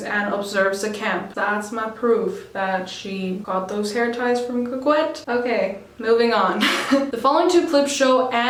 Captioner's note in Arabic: يضحك